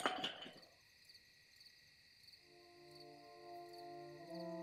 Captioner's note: cricket chirping